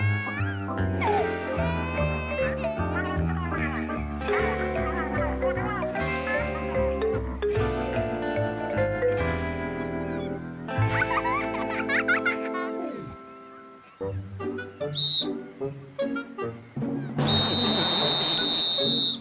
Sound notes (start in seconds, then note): 10.8 child laughing; 14.9 whistle blows; 17.2 whistle blowing